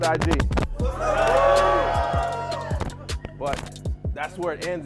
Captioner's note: cheering